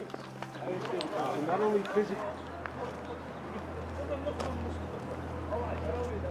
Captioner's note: gentle music continues; tourists chattering